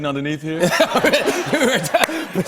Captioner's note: laughs